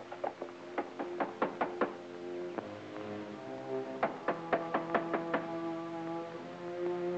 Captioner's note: dramatic music; knocks at door